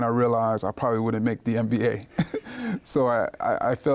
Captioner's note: laughs